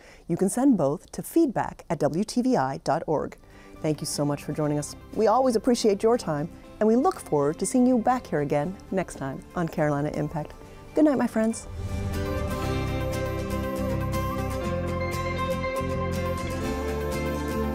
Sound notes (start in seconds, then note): 10.7 upbeat music; 11.6 air rumbles